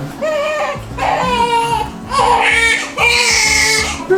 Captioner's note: baby crying